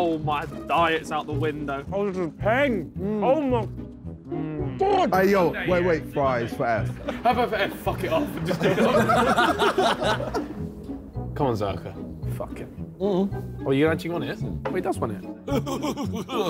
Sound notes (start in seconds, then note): 9.2 all laughing